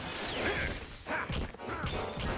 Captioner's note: grunting